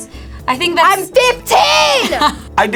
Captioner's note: laughs